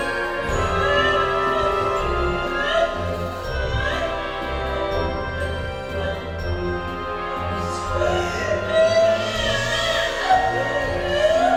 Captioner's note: sobbing